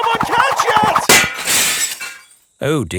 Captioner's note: shatters